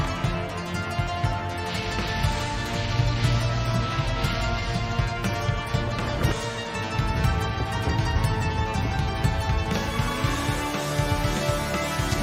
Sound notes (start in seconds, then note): 1.4 sizzling